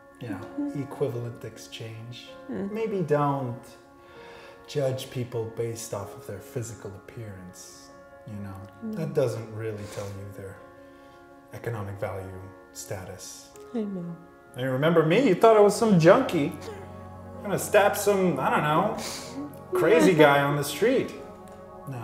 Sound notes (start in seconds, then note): 16.6 chuckles